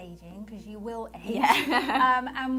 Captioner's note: laughs